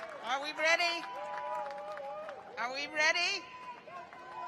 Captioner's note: cheers and applause